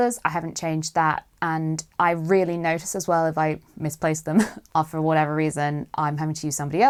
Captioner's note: laughs